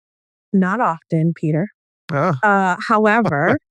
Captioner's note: laughs